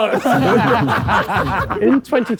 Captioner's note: group laughing